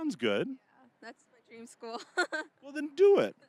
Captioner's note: laughing